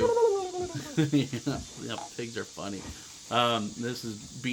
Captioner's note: laughs